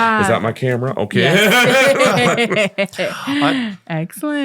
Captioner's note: all laughing